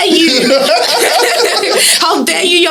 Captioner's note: laughs